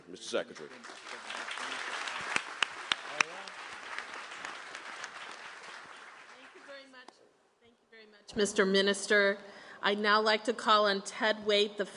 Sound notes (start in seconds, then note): 2.5 applause